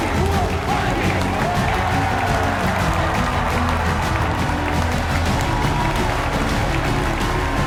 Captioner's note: audience cheers and applauds; upbeat music continues